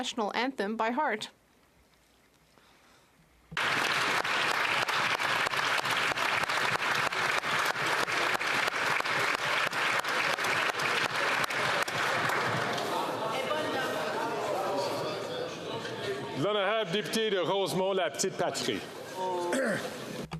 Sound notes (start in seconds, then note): 8.6 applause